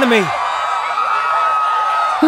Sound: screaming continues

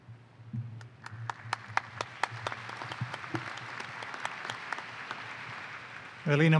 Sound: applause

